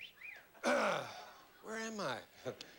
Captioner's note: clears throat